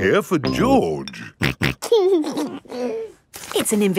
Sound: snorting and giggling

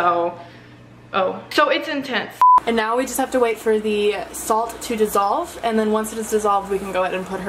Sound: beep

